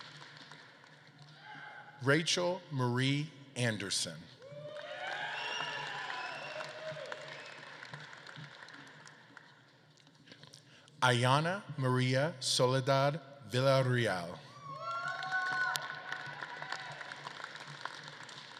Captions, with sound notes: Rachel Marie Anderson. (audience claps and cheers) Aiyana Maria Soledad Villarreal. (audience claps and cheers)